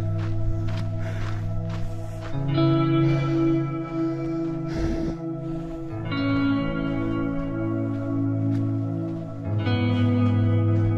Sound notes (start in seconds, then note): 0.3 breathing heavily; 6.9 footsteps crunching